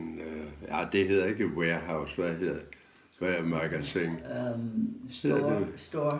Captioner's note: foreign language